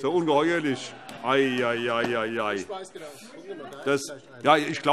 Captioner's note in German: Heiterkeit - Zuruf